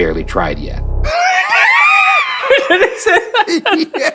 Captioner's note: laughing